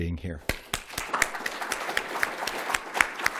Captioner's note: applause